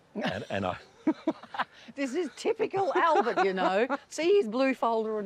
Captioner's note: chuckles